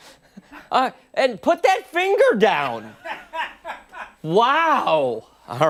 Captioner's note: laughter